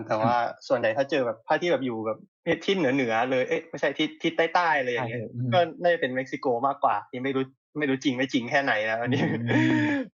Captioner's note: laughs